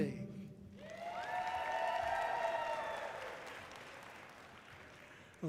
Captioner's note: audience cheering loudly